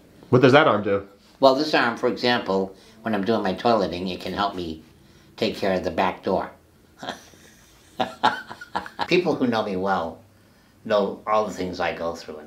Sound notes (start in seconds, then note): 6.9 chuckling softly